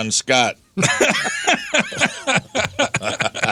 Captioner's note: laughing